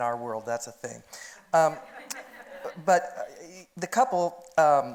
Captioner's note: audience laughing